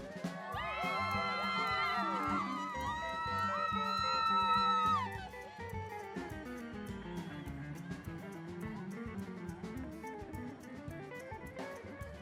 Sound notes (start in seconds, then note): 0.7 cheering